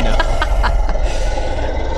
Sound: laughter; roar

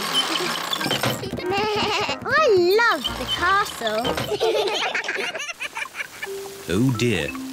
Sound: bleats; all laugh

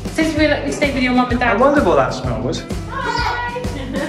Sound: haha

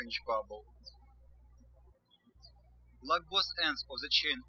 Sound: birds chirping

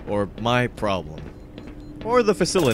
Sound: machines beep

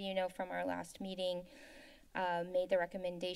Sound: inhales

